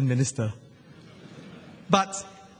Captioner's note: laughter